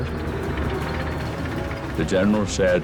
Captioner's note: tank track whirring